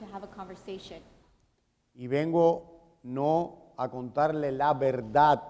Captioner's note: speaking in Spanish